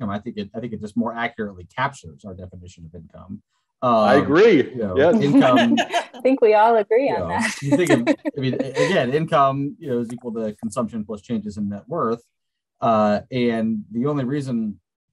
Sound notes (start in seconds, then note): 3.8 laughing